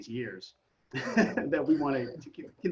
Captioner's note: laughs